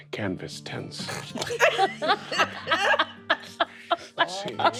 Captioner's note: all chuckling